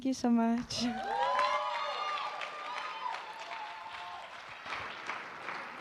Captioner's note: cheering